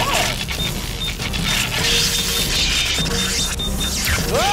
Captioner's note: rapid beeping and zapping